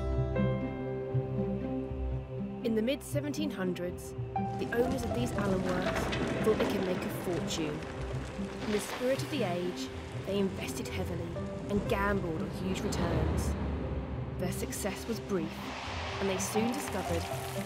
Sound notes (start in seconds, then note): 2.9 gentle piano and orchestral music; 10.6 graphic rumbles